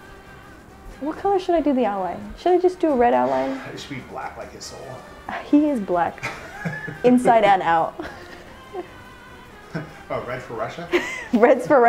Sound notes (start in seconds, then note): 8.2 laughing